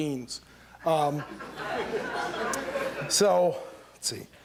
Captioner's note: laughter